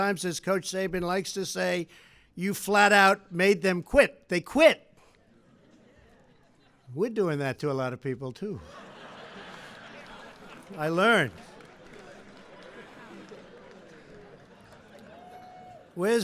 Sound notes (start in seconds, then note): 8.6 laughter